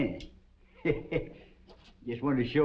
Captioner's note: windy chuckles